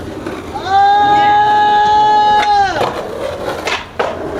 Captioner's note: man cheers